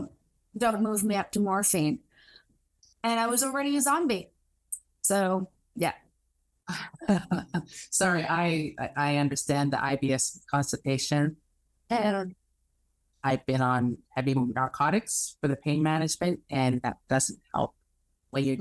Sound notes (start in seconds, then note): 6.7 chuckles